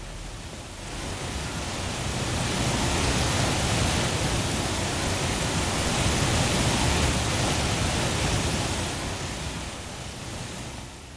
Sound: rushing water

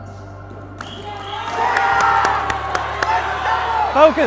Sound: cheers

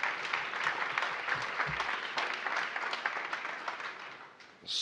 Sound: applause

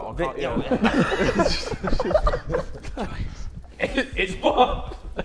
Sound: Sidemen laughing

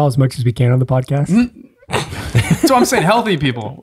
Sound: laughs

